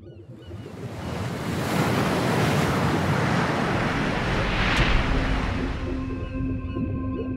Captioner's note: seagulls cawing; waves crashing; water bubbling